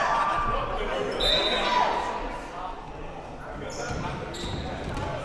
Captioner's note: whistle blowing